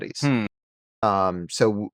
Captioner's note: hums